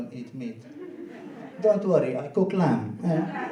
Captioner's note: laughing